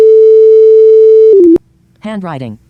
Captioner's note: high tone